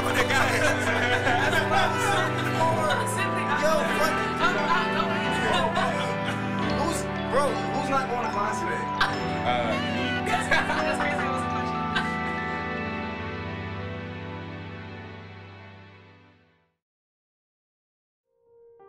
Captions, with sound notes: (laughter) Who's-bro, who's not going to class today? Uhh, me. That's crazy that was a question. (laughter)